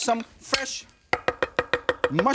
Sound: knife thudding; knife clinks

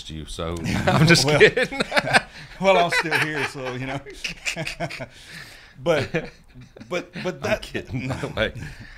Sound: laughter

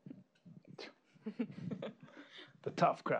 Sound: laughing

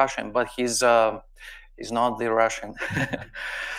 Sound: chuckles

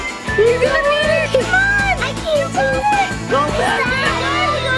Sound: everybody cheering

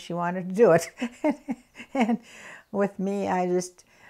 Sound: laughs

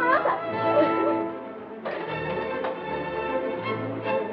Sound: crying

